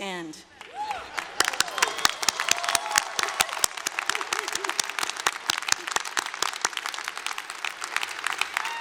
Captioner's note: applause